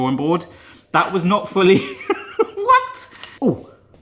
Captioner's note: laughs